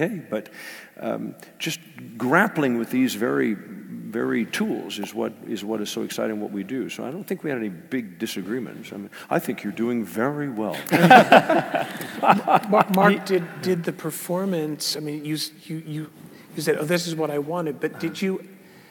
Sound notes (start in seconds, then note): 10.8 laugh